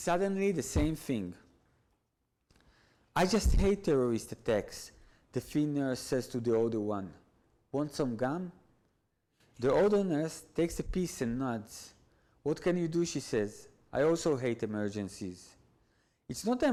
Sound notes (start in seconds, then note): none